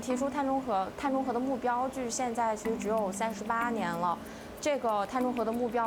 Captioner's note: speaking chinese